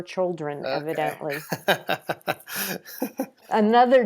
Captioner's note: laughs